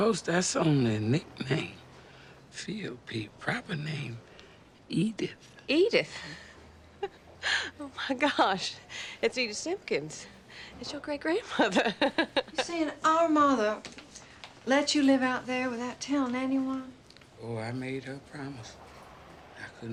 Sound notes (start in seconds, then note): 6.1 laughs